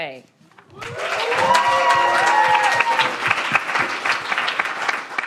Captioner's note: audience applauding